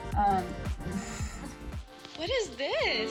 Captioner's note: laughing